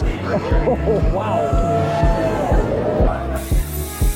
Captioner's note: laughs